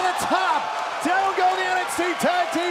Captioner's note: crowd cheering